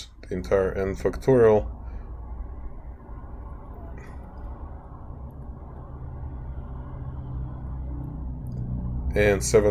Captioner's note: traffic Sounds